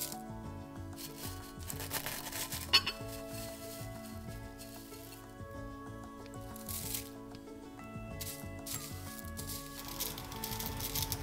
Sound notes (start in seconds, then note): 0.0 tea leaves rustle; 4.6 tea falling into bowl